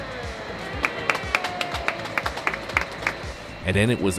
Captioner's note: crowd claps